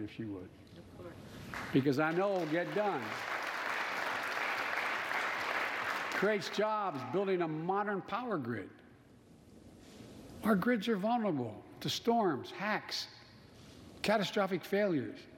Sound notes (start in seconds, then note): 4.7 applause